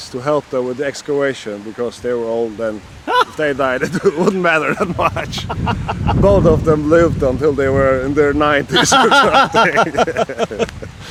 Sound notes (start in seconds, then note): 8.7 laughter